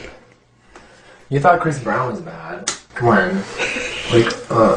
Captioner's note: slaps; laughs